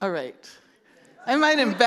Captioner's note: laughter